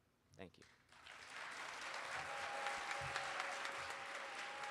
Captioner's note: audience cheering